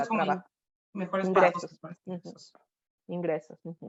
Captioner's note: speaking Spanish